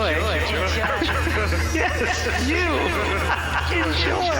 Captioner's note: laughter